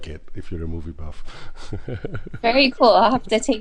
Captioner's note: laughs